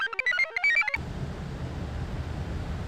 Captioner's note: computer chirps; engine murmurs; wind murmurs